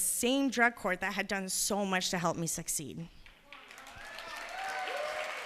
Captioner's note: cheers and applause